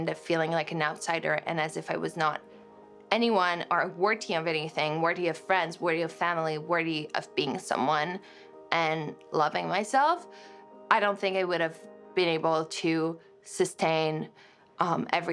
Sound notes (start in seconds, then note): none